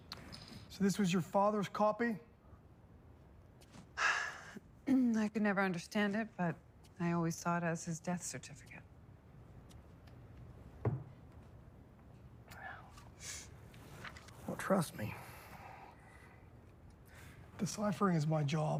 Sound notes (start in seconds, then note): 4.0 sighs; 4.8 clears throat